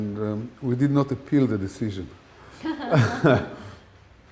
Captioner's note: laughter